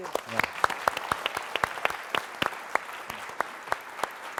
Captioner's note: applause